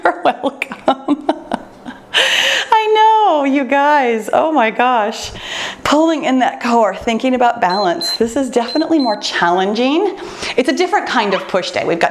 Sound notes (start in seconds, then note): 7.6 timer beeps